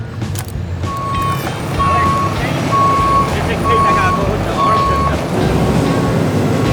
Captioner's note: tow truck back-up motion alarm beeping; tow truck rumbling